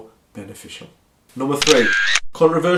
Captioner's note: camera shutter clicks